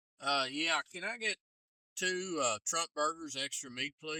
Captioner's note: none